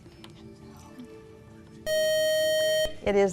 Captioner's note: buzzer